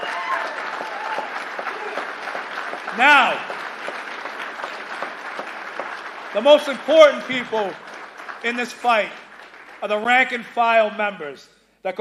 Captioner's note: applause